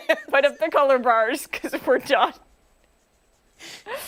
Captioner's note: laughter